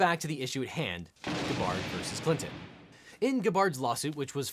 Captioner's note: loud boom